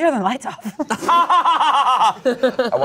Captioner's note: everyone laughs